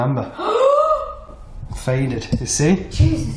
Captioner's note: gasping